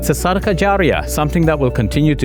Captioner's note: speaking in Arabic